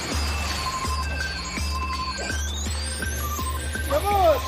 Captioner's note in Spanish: Sonido golpe contra el agua; Sonido metálico